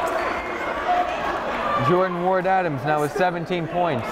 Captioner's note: yelling